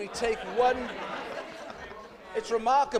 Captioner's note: laughter